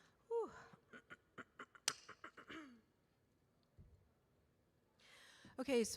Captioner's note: clears throat